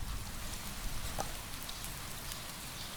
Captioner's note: rain noise